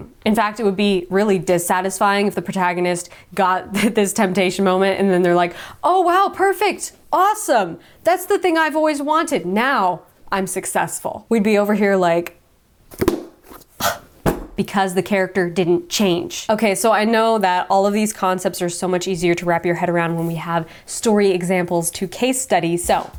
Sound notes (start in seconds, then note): 13.8 sighs; 14.2 book bangs